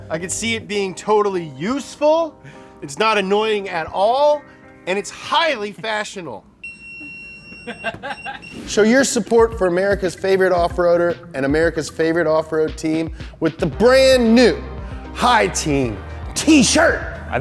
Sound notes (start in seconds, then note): 6.6 prolonged beeping; 7.6 camera man laughs